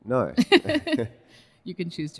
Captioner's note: both laugh